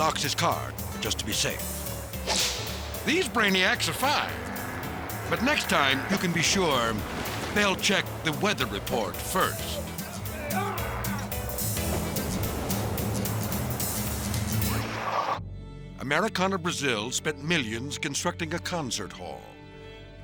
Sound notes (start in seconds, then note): 10.5 passenger yelps; 10.5 upbeat music; 14.3 logo whooshes